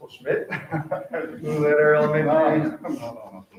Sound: chuckling

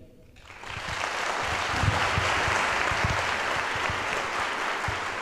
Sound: audience applauds

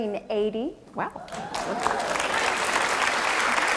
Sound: applause

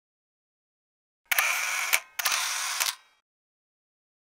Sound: camera shutters

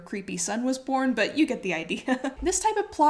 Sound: chuckles

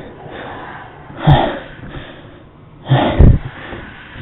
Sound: exhales yet again

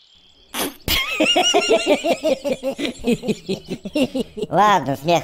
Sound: laughing

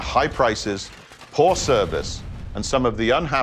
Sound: logos crash

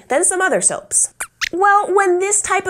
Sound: squeaks squeaks

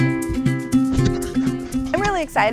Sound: goats bleat

